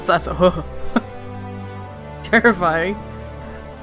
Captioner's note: laughs